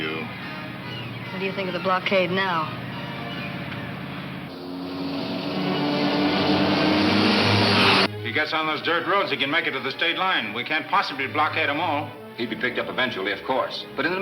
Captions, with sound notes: - What do you think of the blockade now? (car whooshing) (suspenseful music) - He gets on those dirt roads, he can make it to the state line. We can't possibly blockade 'em all. - He'd be picked up eventually, of course, but in the meantime, what about Vicki?